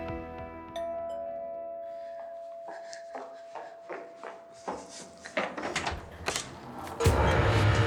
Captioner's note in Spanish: Suena timbre de la puerta